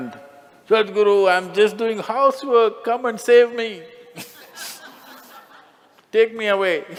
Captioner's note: Smích